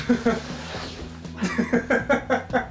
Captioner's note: laughing